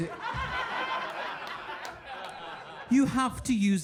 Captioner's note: audience laughing